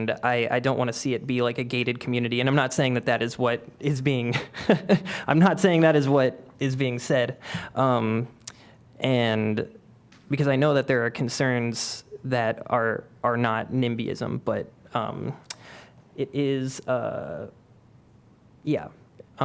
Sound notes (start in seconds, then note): 4.3 laughter